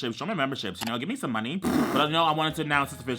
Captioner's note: blows raspberry